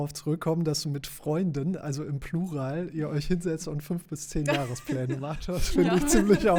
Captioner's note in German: gelächter